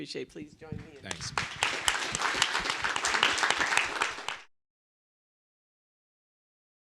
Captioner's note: audience claps